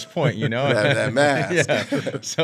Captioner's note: all laughing